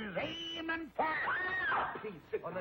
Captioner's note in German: schreit